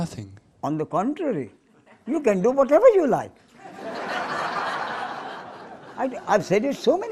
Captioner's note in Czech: smích